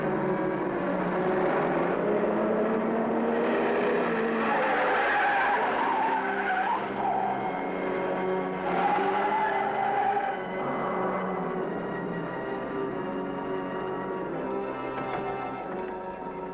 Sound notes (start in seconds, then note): 0.0 suspenseful music; 4.8 tires screeching; 11.2 suspenseful music